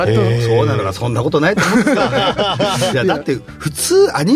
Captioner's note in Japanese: 笑い